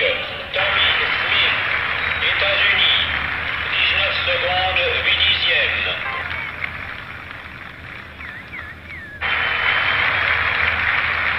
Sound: crowd Cheering!

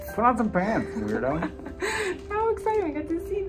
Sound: laughing

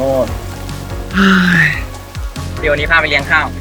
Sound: sigh

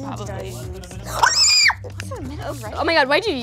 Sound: screaming

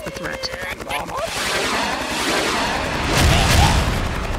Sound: missiles shooting; missiles exploding

